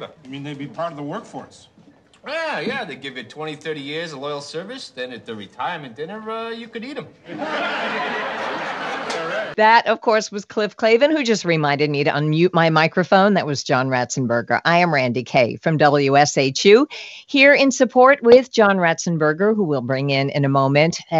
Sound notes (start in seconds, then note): 7.2 audience laughs